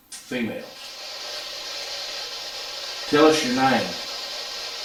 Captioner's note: white noise buzzes